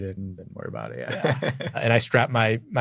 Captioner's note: laughs